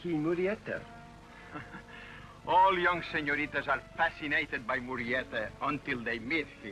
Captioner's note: chuckles